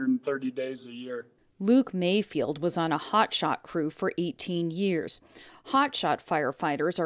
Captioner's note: voice-over